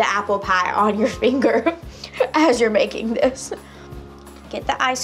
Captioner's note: laughs